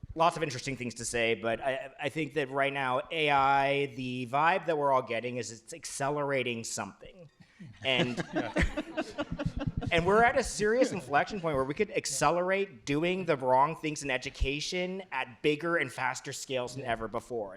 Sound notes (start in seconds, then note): 7.8 laughter